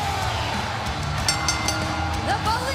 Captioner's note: bell ringing